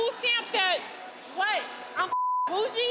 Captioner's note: beep